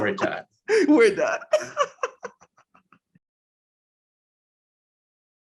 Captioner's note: laughs